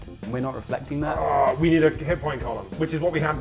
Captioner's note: groaning